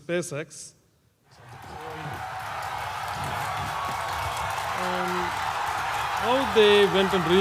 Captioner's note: applause